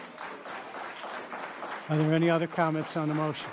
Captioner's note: audience applauding